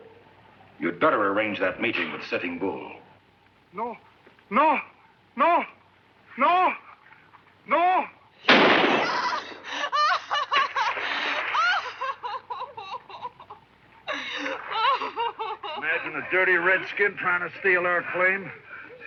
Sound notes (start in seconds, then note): 8.4 gunshot fires; 9.1 lady crying